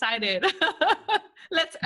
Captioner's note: laughs